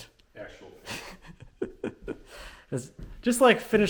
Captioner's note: laughing